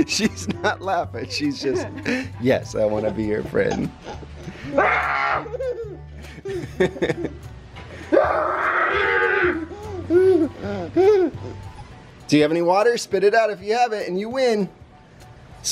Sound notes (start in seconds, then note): 5.0 laughing; 5.0 screaming